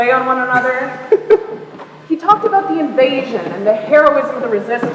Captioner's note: laughs